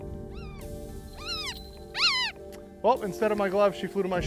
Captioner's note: hawk vocalizing